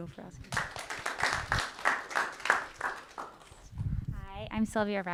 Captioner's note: audience clapping